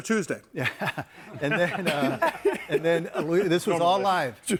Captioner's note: laughs